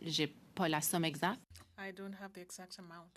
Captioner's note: speaking French